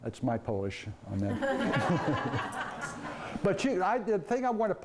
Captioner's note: laughing